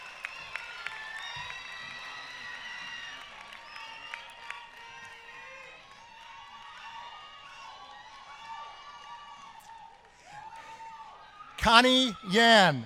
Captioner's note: applause